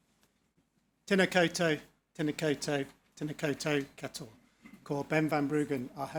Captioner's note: speaking foreign language